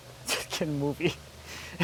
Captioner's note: laughs